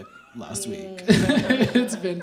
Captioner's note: chuckles